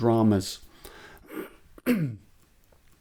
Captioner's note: clears throat